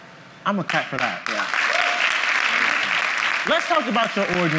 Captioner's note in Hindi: ताली